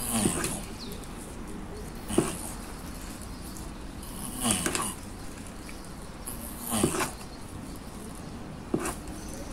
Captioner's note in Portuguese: som dos jabutis acasalando